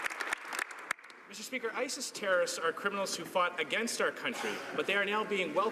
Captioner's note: some Applause